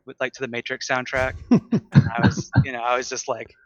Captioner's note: laughter